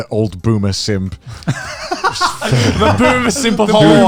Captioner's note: laughs